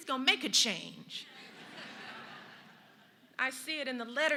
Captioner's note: laughter